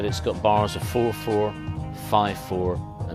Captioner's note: humming rhythm